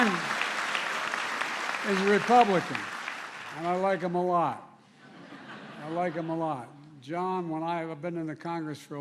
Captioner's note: applause